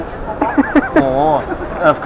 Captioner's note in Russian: смеётся